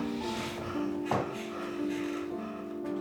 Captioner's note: Riz'shar makes a worried noise